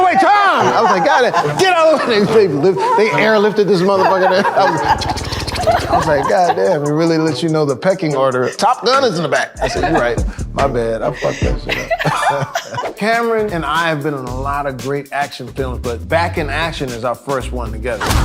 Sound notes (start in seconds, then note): 4.7 copter clicking; 12.2 Cameron laughing